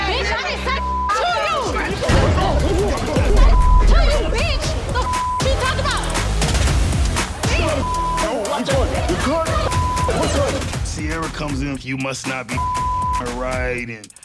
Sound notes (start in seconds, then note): 0.7 beep; 1.3 group clamoring; 2.9 beep; 6.8 group chattering; 12.5 beep